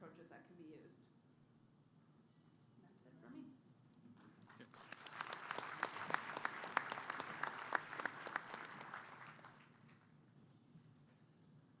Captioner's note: applause